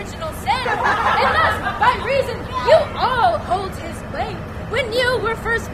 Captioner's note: laughter